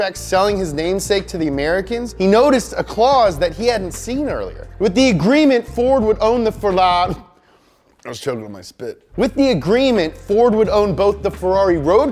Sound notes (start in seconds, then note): 7.1 laughs